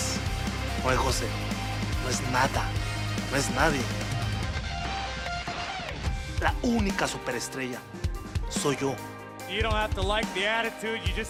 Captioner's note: speaking spanish